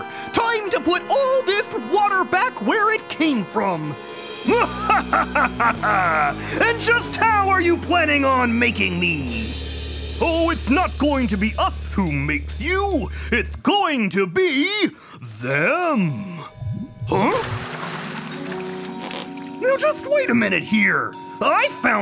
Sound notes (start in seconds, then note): 4.5 evil cackling